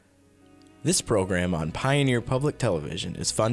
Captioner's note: voiceover